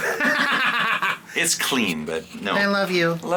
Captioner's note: cackling